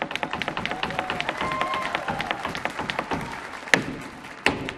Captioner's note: audience cheering